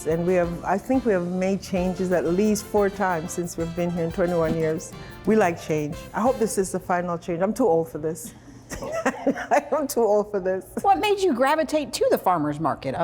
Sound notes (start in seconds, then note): 8.7 both laugh